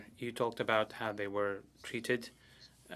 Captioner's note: speaking French